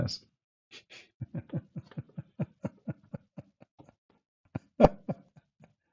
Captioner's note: Ketawa